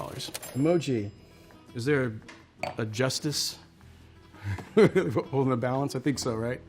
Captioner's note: laughs